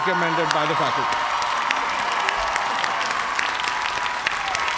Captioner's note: cheers and applause